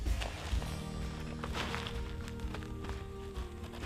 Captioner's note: snow crunching